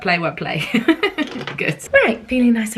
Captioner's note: laughing